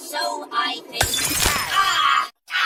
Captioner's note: glass shattering